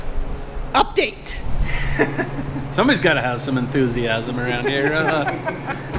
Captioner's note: laughing